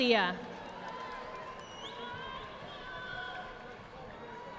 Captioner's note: audience applauding